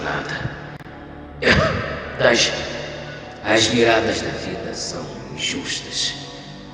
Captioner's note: coughs